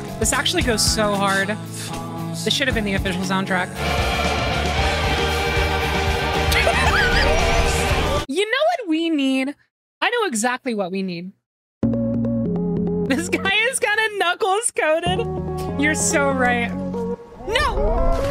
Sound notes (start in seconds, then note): 6.4 laughter